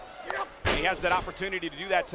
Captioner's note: blows thudding